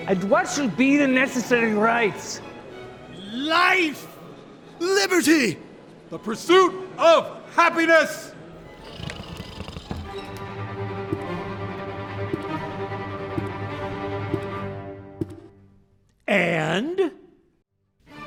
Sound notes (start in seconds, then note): 8.6 snoring; 10.1 dramatic music